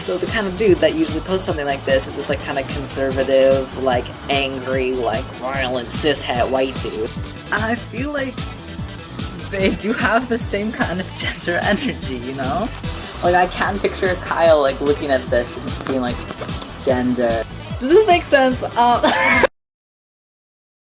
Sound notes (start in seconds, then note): 19.0 laughs